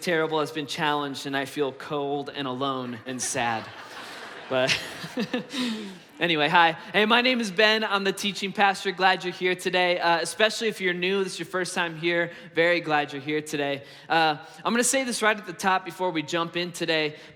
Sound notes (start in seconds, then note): 2.8 congregation laughs; 4.8 laughs